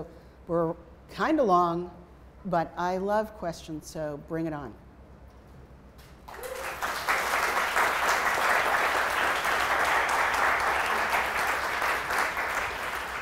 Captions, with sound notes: So we're kinda long, but I love questions, so bring it on. (applause)